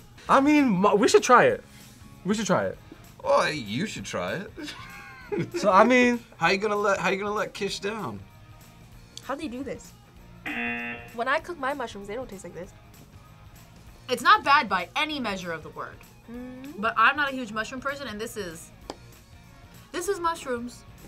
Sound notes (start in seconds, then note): 4.6 laughs; 10.4 buzzer